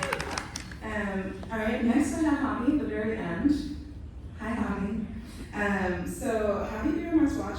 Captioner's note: applause